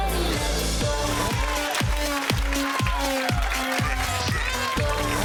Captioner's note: crowd cheering and applauding